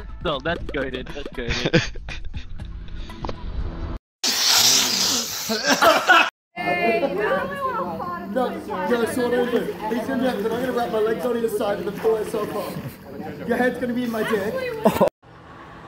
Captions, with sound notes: no, that's goated that's goated.. *sniffs aggressively* *coughs aggressively* your head's gonna be in my dick! :D